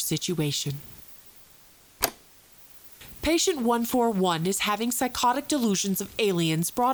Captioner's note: tape clicks off, then back on